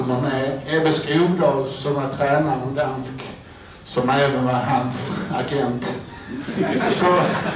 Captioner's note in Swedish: Skratt